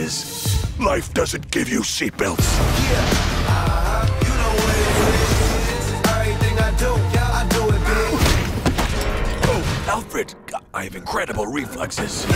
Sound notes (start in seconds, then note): 8.2 crash